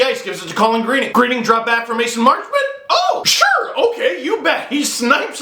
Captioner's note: incredulous high pitched voice